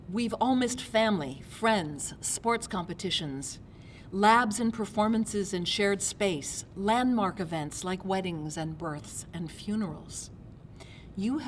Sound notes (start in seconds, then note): none